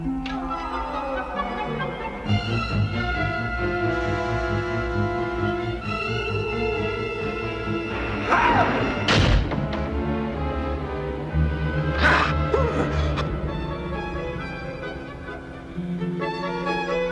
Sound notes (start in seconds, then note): 0.1 howling; 8.2 evil shout; 12.0 evil shout; 12.3 Steven whimpers